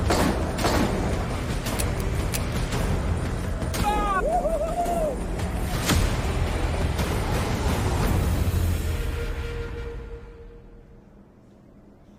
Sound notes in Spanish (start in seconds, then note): 0.1 Disparos; 1.7 Clic; 3.6 Parcero exclama